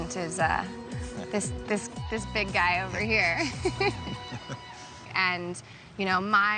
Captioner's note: laughs